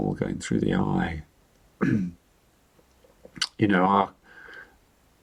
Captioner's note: clears throat